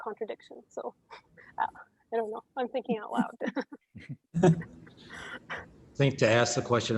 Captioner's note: chuckles